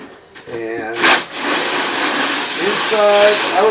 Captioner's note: water spraying